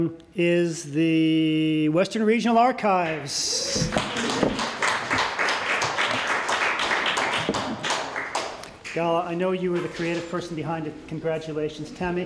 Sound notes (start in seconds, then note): 3.7 applause